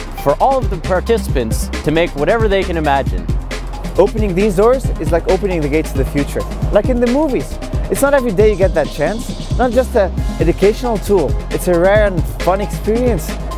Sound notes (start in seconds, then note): 3.5 in English